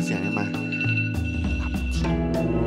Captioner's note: iPhone alarm